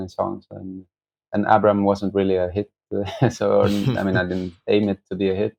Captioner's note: laughter